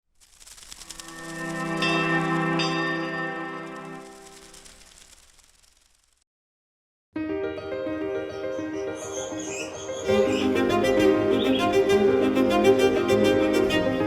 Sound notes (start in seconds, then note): 1.8 bell ringing; 1.8 soft instrumental music; 7.4 upbeat instrumental music